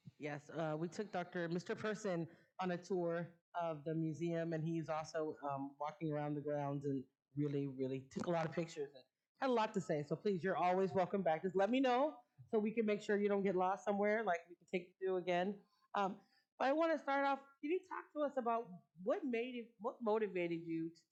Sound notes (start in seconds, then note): none